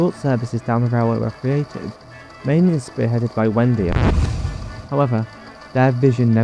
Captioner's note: record scratched